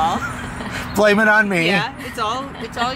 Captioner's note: laughs